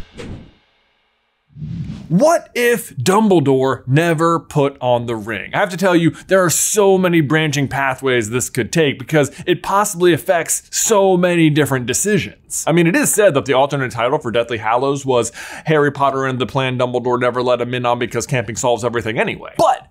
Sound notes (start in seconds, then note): 1.5 logo fwipping; 1.5 logo sliding